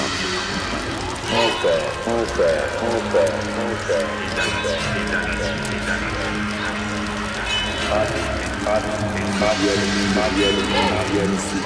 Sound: extremely sardonic

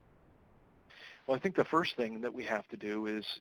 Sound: voiceover

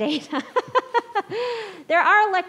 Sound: laughs

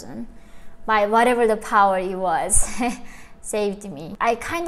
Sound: chuckles

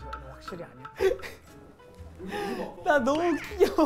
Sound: laughing

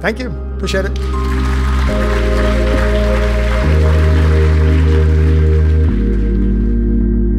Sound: light music; audience applauding

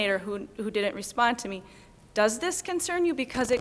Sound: none

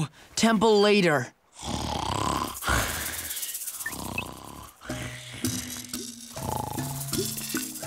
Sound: groaning; snoring

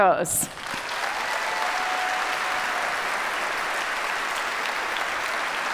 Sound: audience applauds

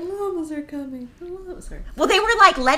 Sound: laughing

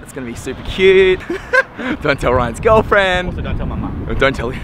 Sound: laughs

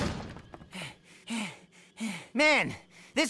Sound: door slams open; heavy breathing

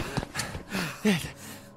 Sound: panting

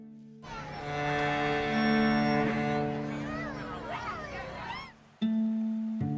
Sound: gentle music; crowd chattering indistinctly; gentle peaceful music

